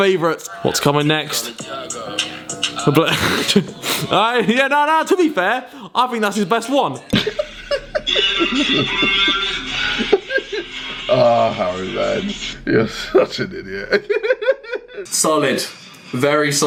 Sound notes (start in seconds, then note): 7.1 KSI laughing; 12.8 laughing